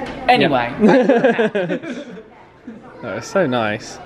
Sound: laughing

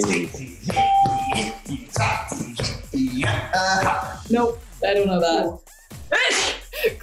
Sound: hums; sneezes

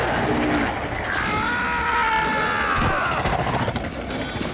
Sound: screaming

